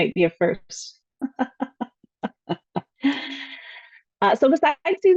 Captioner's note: laughs